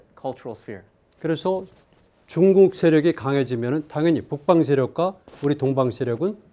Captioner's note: speaking in Korean